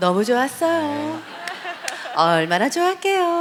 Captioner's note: laugh